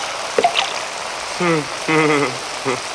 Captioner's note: chuckling